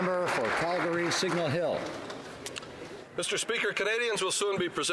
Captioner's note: speaking alternate languages